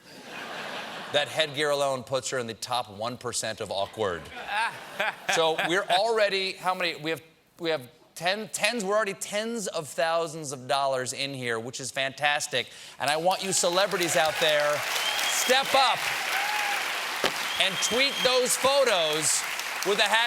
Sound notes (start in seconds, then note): 4.2 laughter; 13.3 cheers and applause